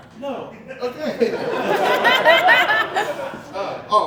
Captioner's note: audience Laughing